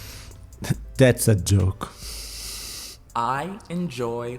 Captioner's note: exhale